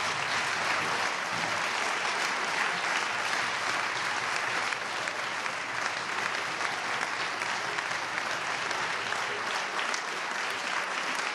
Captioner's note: applause